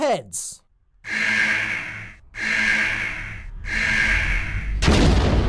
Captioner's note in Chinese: 警報; 爆炸